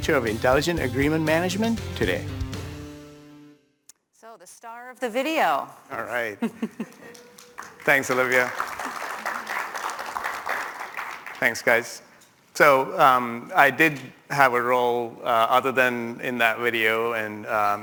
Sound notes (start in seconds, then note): 8.5 applause